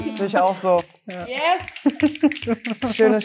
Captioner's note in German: Schnipsen